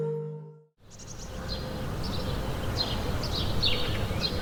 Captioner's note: birds chirping